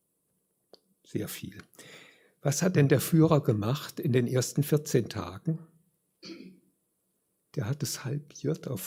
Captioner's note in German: räuspern